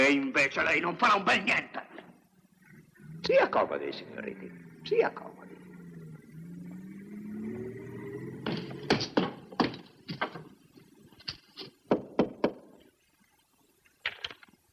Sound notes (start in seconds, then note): 11.3 knocking